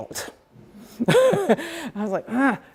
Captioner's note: laughing